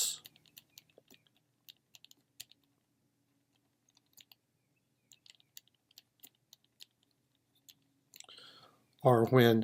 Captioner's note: typing